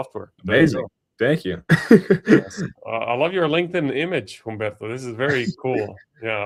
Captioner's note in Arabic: ضحك